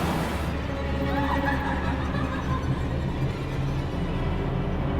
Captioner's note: woman laughing